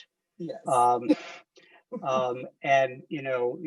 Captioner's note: laughs